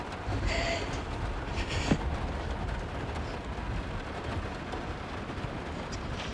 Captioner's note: crying